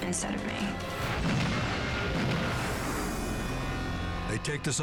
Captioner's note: gunshots echo